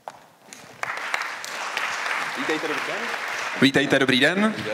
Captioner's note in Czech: potlesk